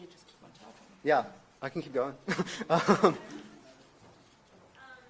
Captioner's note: laughs